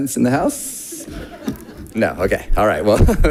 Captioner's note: audience laughing